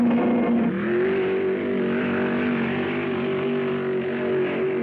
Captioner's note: car booming; car revving